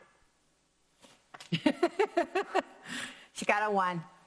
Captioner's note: laughs